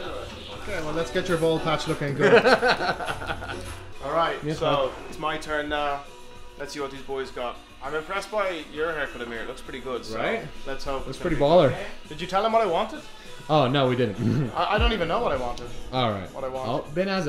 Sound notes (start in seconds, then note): 2.2 laughs